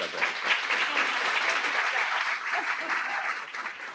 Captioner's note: audience applauds